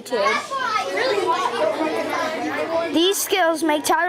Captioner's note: students chattering